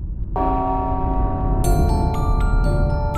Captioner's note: bell tolling; xylophone music